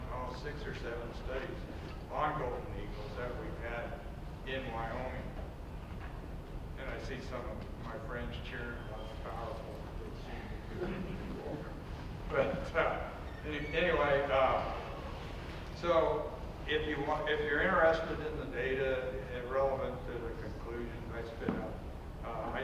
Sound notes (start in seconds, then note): 10.6 chuckles